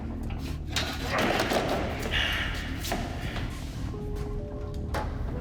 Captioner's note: metal noises and Jan moaning